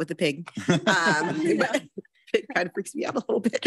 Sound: all laughing

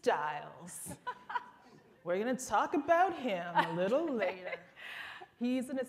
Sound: laughter

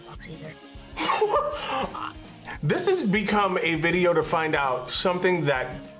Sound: laughs

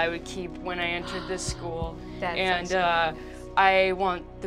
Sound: gasping

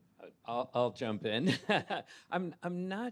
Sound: laughs

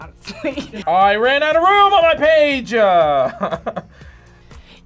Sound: laughs; laughs

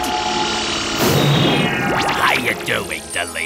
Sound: explosive poof

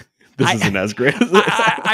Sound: chuckles

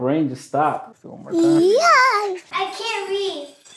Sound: yells

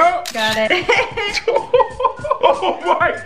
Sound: laughter

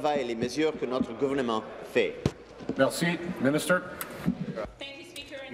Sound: speaking in French

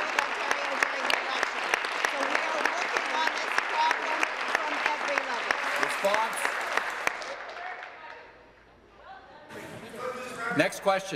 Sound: applause

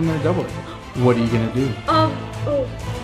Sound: gasps

